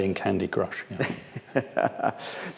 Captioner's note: laughs